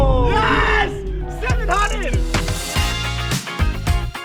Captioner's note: thrilling music; faintly speaking; upbeat music